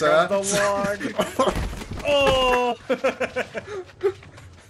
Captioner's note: laughs